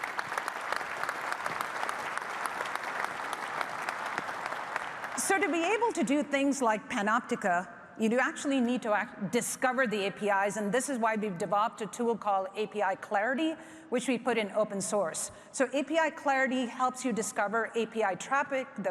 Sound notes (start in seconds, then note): 5.2 applause